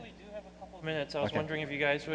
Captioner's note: voiceover